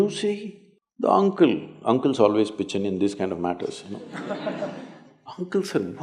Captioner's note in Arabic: ضحِك